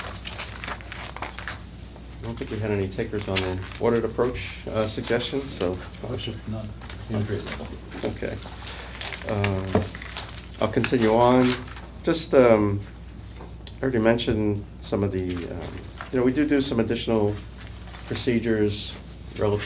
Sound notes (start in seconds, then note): 6.1 indistinct chatter